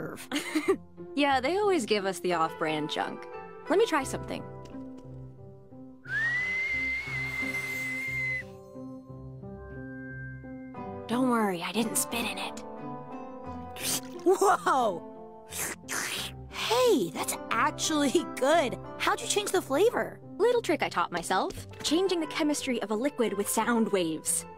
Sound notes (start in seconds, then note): 0.1 Raine laughs; 6.0 whistles